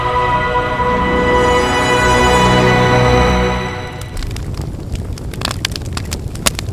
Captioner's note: none